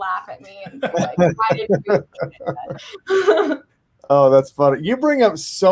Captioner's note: panelists laugh